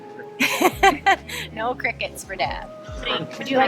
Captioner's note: laughs